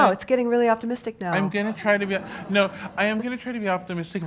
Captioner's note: laugh